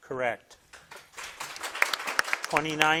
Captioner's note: crowd claps